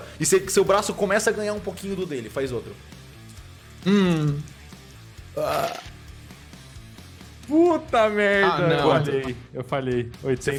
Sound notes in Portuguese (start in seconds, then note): 5.3 arroto; 6.0 sons de dado